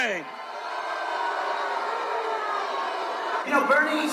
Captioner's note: booing